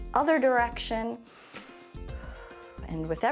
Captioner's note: inhales and exhales